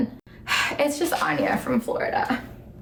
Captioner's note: sighing